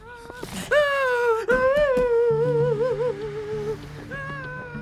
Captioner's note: crying loudly